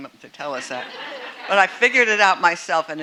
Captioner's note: audience laughing